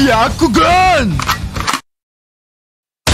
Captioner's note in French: bruit d'arme